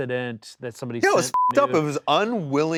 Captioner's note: beep